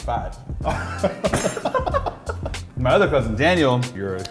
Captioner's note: laughing